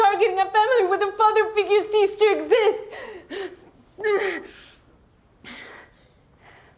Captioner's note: breathing heavily